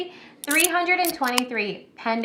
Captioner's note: can opening